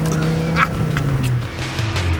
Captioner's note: laughs